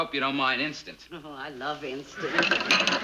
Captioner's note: dishes clatter